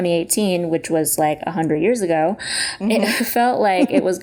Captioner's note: laughter